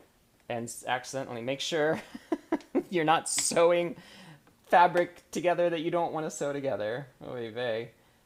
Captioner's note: laughter